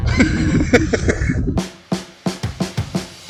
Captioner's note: laughing; upbeat music